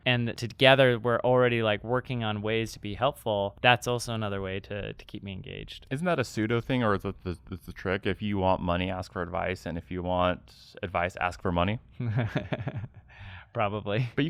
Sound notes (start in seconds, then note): 12.0 laughs